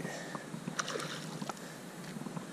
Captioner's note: water splashes